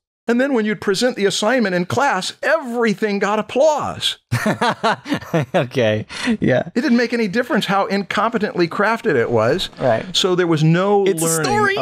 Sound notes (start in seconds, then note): 4.3 laughter